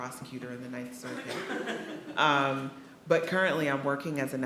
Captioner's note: attendees laughing